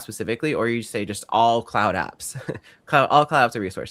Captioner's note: chuckles